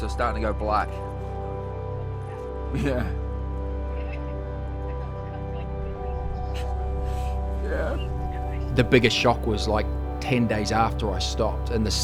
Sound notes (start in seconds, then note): 2.6 laughing; 5.3 sniffles